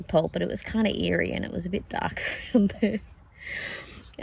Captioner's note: laughing